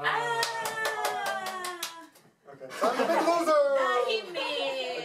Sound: clapping

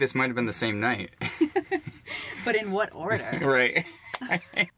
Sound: Tina laughing

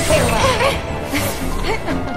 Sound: eerie Laughter

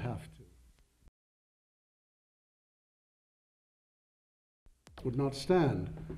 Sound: silent

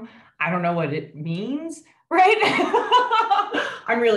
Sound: laughs

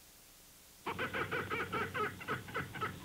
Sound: monkey sounds

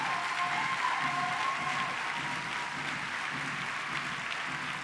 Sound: cheers and applause

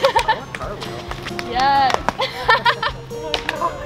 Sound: laughs; laughs

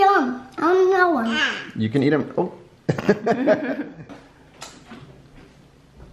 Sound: laughter

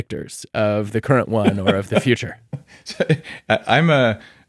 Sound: laughing

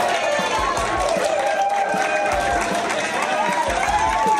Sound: crowd clapping and cheering

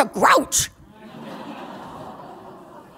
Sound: laughter

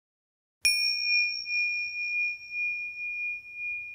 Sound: bell rings

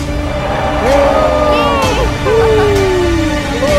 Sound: screams

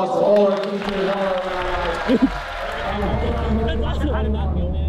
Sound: crowd cheering

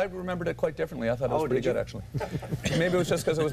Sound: laughter

